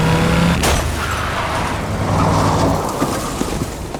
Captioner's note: motorcycle crashes